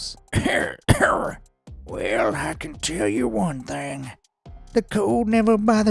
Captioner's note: coughs